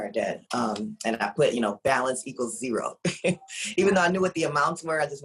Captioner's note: laughs